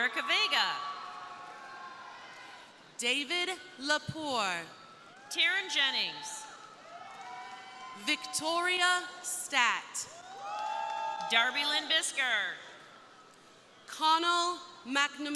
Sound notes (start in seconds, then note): 0.0 crowd cheering; 4.1 crowd cheering; 10.1 crowd cheering